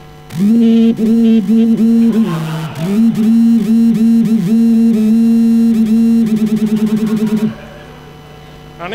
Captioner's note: intense buzzing